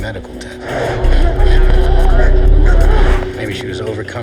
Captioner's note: gasping